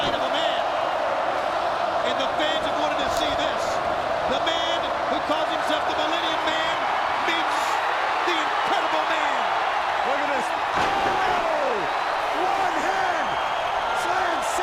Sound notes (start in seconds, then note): 11.5 commentators exclaim